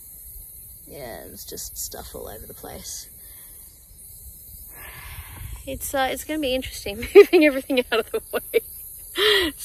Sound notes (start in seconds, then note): 4.8 sighs; 7.0 laughing